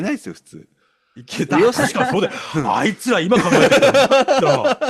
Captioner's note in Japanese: 笑い